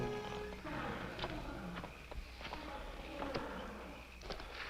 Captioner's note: elephant trumpeting